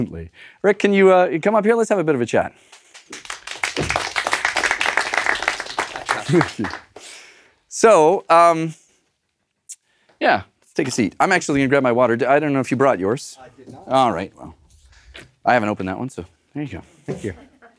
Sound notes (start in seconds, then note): 2.6 applause; 5.9 laugh